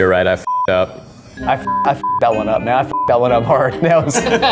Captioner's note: beeps